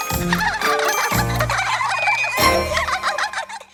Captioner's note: laughing